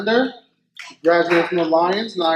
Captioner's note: faint clapping